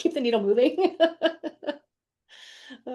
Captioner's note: laughs